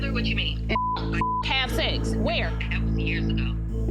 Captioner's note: beep